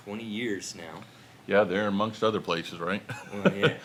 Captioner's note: chuckles